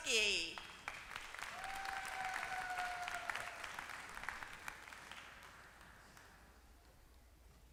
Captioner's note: applause